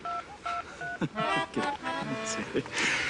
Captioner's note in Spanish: Sonido al marcar